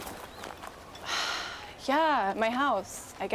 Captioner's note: sighs